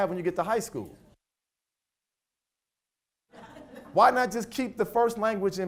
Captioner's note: audio cuts out